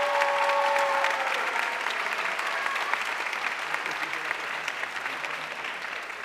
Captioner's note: audience cheering and applauding